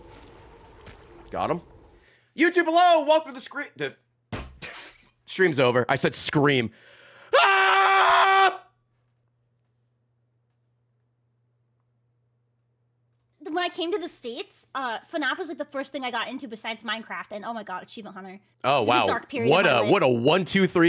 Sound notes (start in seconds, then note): 4.3 bangs desk; 10.8 screams